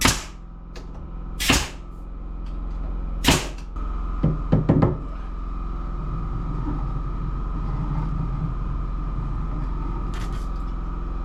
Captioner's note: knocking